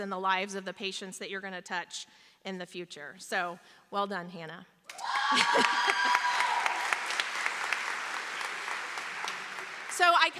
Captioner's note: cheering; applause